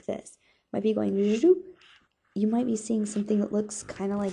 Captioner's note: excelling sound with mouth